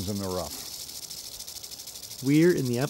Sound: rattling

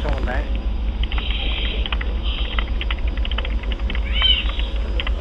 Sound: keyboard clacking

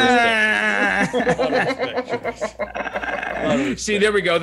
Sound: laugh

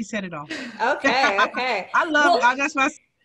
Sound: laughs

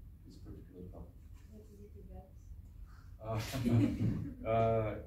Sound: laughs

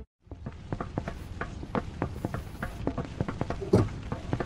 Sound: car tire thumps

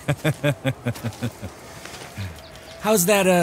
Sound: laughs

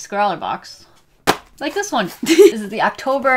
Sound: laughs

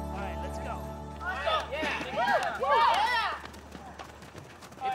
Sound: chattering, Whooping

